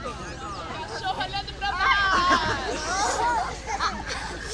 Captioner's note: kids laugh